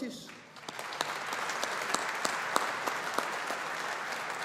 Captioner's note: audience applauding